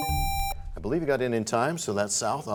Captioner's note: buzzer sounds, bell chimes